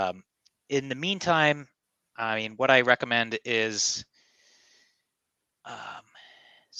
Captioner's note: sighs